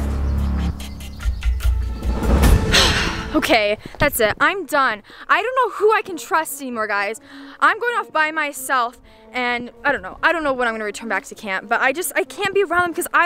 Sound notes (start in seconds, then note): 0.0 engine roaring; 2.6 sighs; 12.4 soft orchestral music